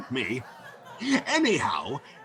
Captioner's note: audience laughing